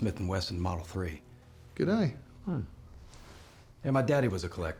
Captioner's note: scottish accent